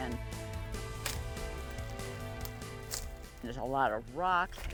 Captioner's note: upbeat, exciting music; bushes crinkling